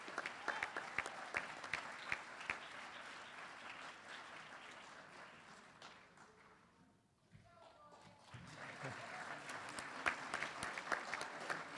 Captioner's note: applause